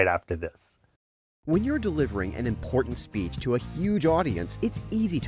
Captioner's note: voice-over